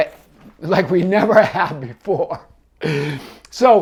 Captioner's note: laughing